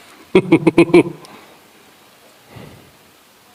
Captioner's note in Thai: เสียงหัวเราะ